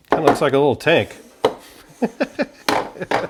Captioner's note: laughs